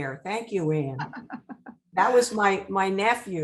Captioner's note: laughing